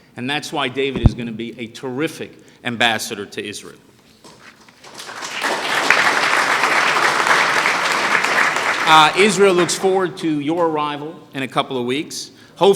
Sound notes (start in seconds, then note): 4.8 applause